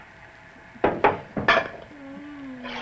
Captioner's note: jars bang on table, lids close